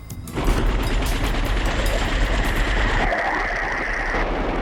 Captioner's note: helicopter buzzing